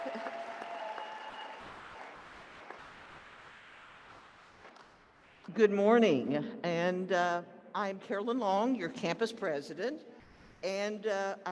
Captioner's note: applause